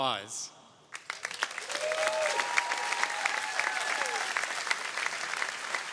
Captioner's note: audience applauding